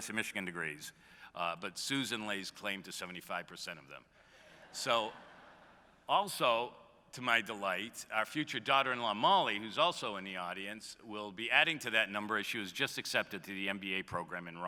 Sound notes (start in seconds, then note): 4.4 laughter